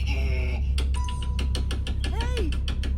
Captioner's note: frantic knocking, creepy music